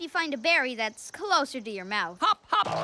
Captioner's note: giggles